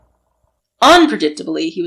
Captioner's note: sound of rushing steps